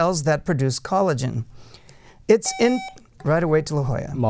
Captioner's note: buzzer